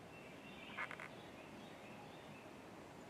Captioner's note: birds chirping